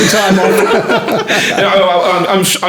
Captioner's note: laughing